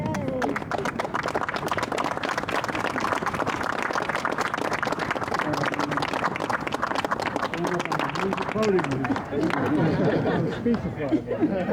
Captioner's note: applause